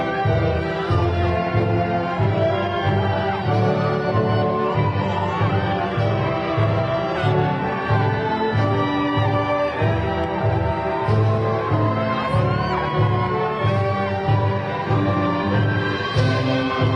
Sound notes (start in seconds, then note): 0.1 graduation music continues; 5.3 crowd cheering